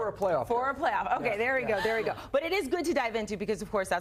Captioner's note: laughter